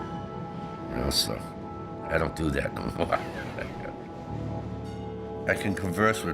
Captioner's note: laughs